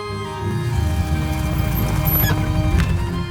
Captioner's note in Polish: pisk hamulców